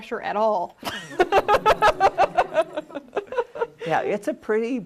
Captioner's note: laughter